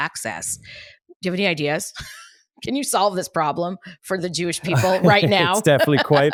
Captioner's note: laughs